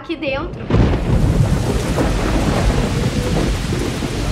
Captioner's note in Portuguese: Trovão